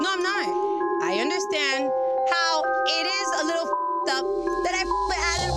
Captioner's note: beep